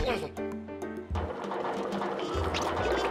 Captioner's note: rollers clanking